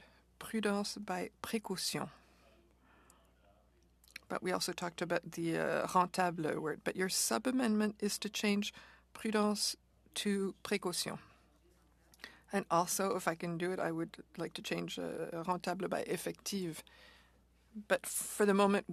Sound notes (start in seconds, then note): 11.7 speaking French